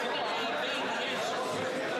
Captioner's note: crowd Noise